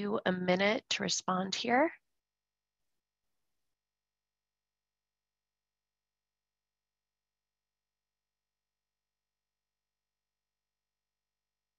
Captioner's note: silence from 0:32:50 to 0:33:15